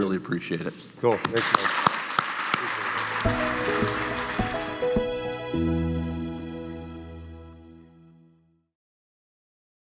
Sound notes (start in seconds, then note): 1.0 audience applauding; 3.0 gentle music